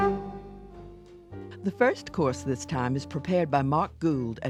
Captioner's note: jazz music; voiceover